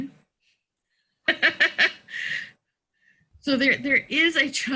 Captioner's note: laughs